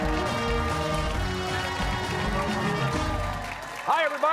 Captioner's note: cheers and applause